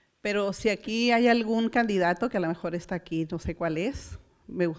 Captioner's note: foreign language